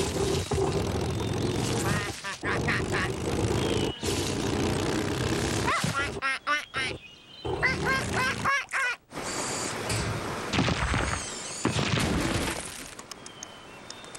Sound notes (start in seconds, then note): 1.8 quacking; 7.8 excited Quacking; 12.2 clattering